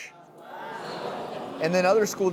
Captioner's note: crowd scoffs